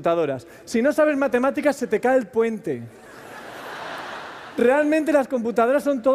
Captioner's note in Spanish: Risas